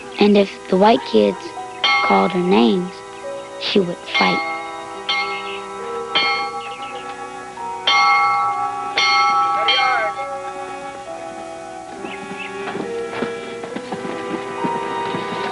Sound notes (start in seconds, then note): 4.0 schoolbell ringing; 12.6 stomping